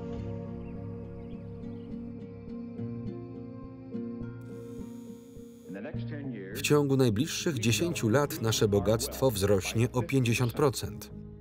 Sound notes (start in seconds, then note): 0.0 birds chirp; 4.3 machine buzzes